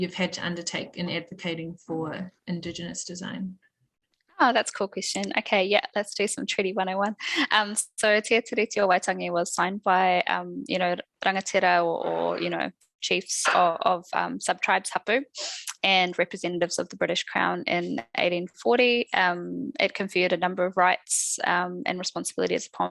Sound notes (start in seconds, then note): 8.1 non-english speech